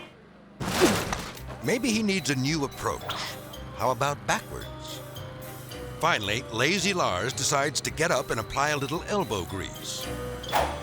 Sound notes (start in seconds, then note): 0.6 thuds